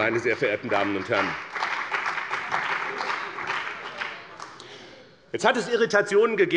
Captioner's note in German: Beifall bei dem BÜNDNIS 90/DIE GRÜNEN und der CDU